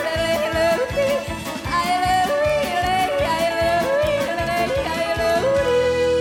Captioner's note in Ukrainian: оплески